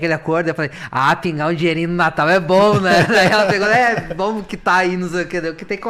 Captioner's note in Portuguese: risadas